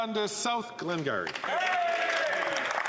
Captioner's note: speaking French